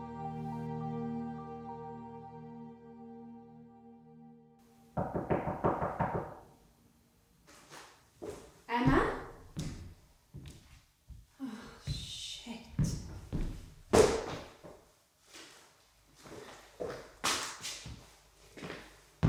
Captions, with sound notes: [Knock at door] Emma? Oh shit.